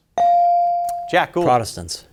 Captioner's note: bell ringing